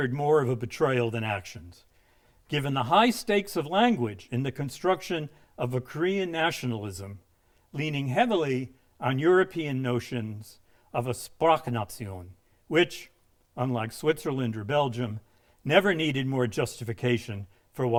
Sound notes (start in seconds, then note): 11.6 speaking in a foreign language